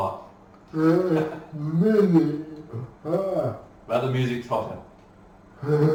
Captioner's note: laughs